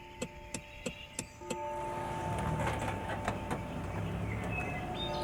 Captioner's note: church bell ringing